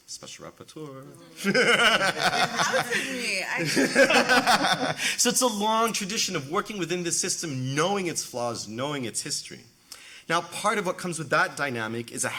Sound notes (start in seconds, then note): 1.3 laughs